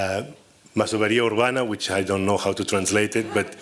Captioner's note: spanish